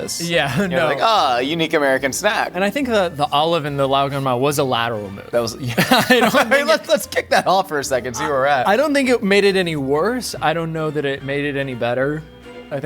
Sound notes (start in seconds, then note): 5.6 laughing